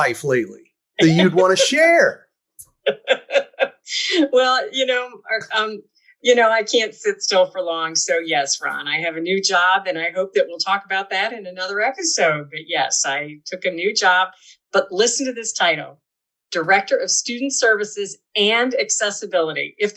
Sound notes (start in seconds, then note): 2.8 laughter